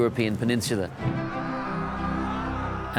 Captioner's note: distant yelling